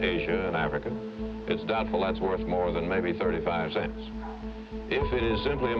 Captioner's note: none